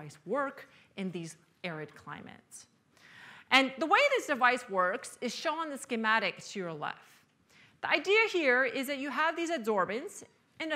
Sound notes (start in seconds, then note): none